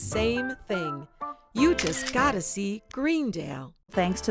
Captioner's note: camera clicks